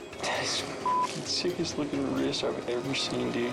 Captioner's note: beep